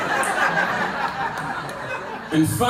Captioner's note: laughter